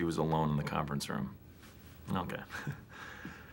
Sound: chuckles

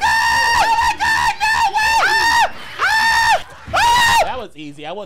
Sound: screaming

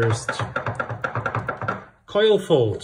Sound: utensil clattering

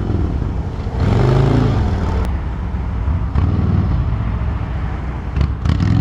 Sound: motorcycle engine revving

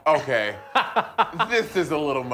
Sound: laughing

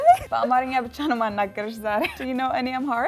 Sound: speaking in Amharic

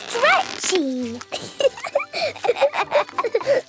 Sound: both laughing

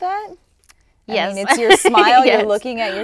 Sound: laughs

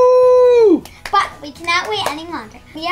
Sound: claps

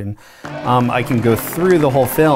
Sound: documentary playing

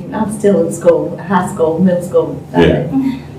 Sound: laughter

